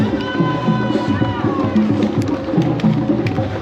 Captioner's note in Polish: Aplauz